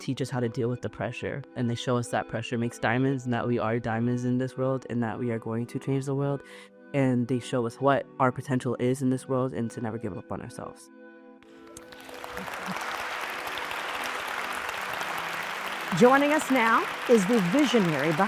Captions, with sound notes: They teach us how to deal with the pressure, and they show us that pressure makes diamonds and that we are diamonds in this world and that we are going to change the world. And they show us what our potential is in this world and to never give up on ourselves. [applause] Joining us now is the visionary